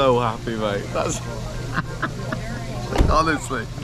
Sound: laughing

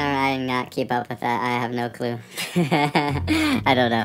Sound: nervous chuckle

